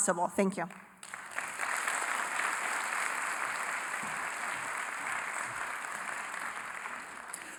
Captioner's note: applause